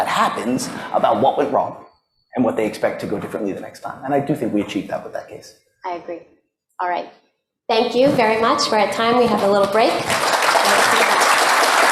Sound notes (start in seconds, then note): 9.3 applause